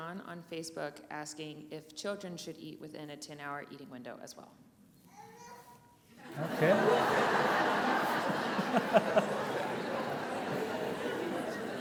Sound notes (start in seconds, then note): 5.1 child babbles; 6.2 audience laughs; 8.8 laughs